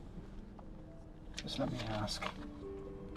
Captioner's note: sound of paper shuffling